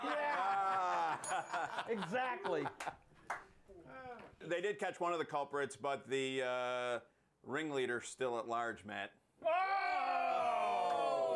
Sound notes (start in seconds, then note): 0.0 laughter; 1.2 bell rings